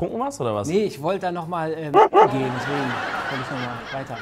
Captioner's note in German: wuff, wuff!